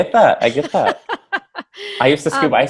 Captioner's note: laughs